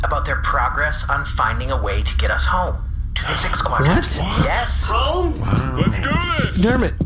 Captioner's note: excited